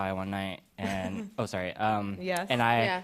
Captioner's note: chuckles